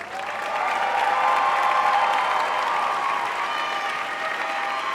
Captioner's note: audience applauding